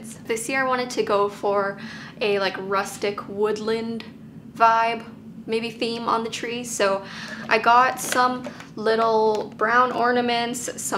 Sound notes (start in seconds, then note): none